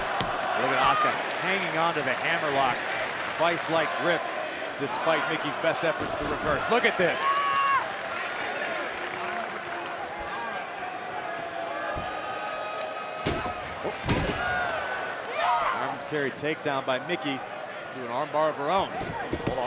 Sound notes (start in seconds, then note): 7.3 Mickie shouts; 13.2 canvas thuds